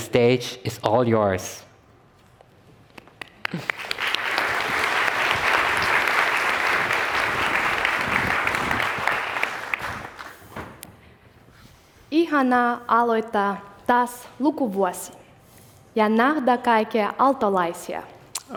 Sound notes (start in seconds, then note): 3.2 applause